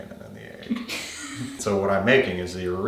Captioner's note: partner laughing